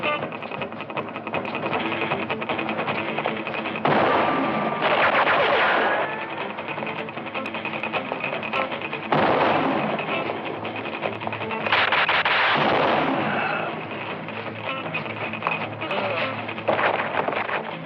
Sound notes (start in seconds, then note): 3.7 gunshots; 9.0 gunshot; 11.7 gunshots